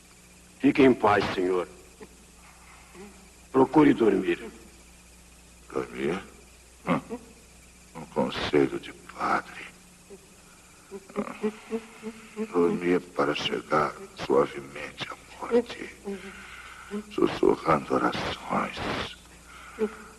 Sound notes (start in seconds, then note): 1.7 labored breathing; 10.4 wheezing; 16.0 wheezing; 19.4 wheezing